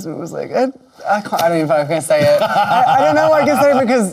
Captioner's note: laughing